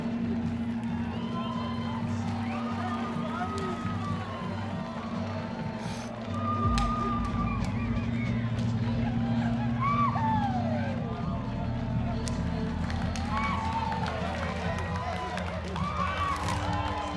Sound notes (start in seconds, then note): 2.5 cheering, chatter; 5.8 cheering continues in distance; 12.6 cheering, chatter continue